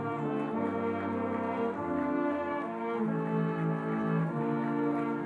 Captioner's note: stately music; audience applauding